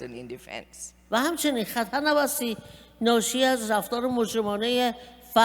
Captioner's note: speaking persian